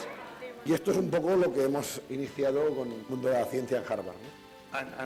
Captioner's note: speaking spanish